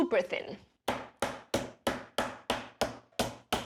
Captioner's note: pounds meat